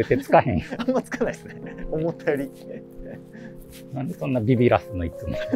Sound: laughing

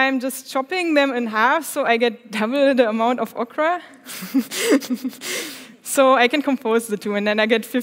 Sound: laughs

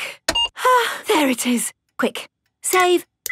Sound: sighs

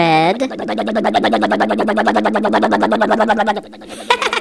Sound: crane motor

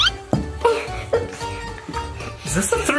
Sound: banging on floor

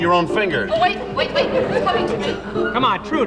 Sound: audience laughing

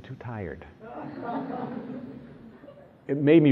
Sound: laughter

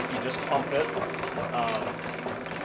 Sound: lathe roaring

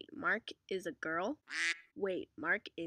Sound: quack

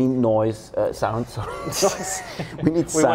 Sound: laughs

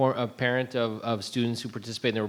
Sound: none

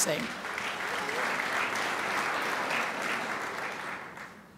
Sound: crowd applauds

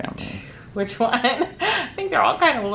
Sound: laughing

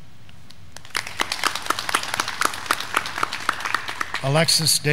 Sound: graduands clapping

